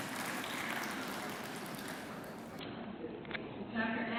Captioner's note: clapping